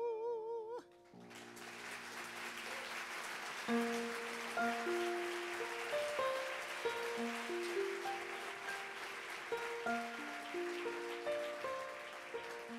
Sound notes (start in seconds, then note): 1.5 audience applauds; 9.4 bright piano music